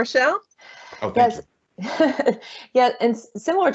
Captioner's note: chuckling